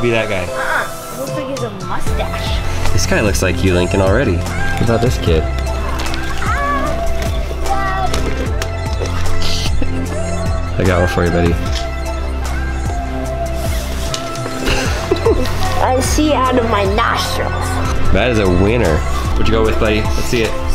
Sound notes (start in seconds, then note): 6.3 bright music; 14.4 laughing